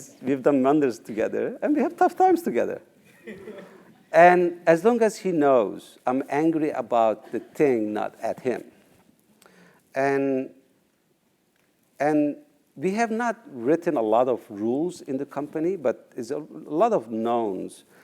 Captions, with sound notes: We've done wonders together, and we have tough times together. >> [LAUGH] >> And as long as he knows I'm angry about the thing not at him and we have not written a lot of rules in the company but it's a lot of knowns.